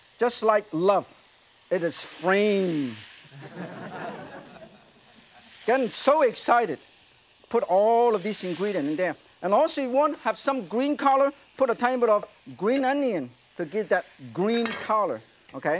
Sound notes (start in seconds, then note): 3.3 audience laughs